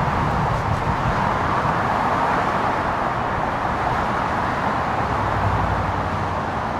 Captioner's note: cars engines revving and echoing through the overpass